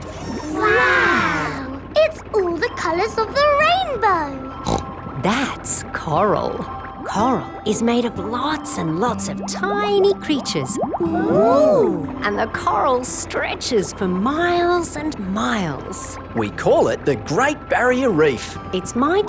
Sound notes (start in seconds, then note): 4.6 snorts